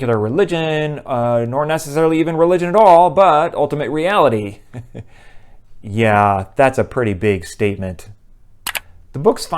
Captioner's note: mouse click